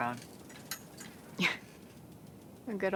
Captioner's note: Sawyer chuckles